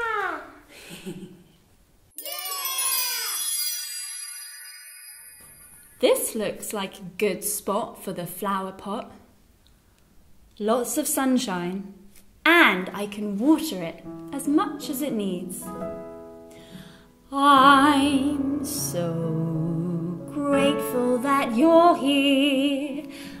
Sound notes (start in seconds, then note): 2.2 children cheering; 18.7 singing